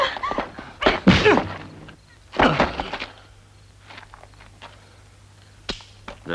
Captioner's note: whacks; cries out; knife snaps